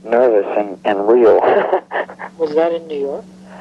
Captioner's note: laughing